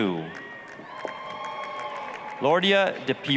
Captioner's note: applause, cheering